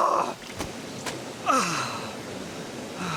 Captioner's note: sighs